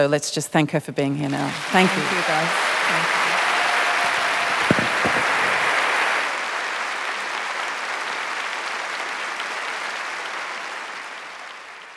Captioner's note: applause